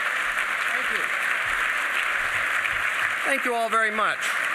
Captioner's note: applause